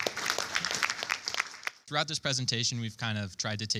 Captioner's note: applause